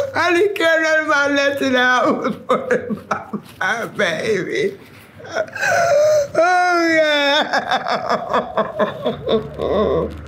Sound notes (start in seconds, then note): 5.2 weeping; 5.2 crying